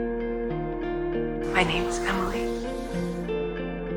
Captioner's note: voiceover